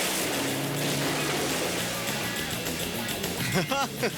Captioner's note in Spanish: motores de carro acelerando